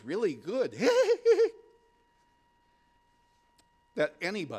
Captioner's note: screams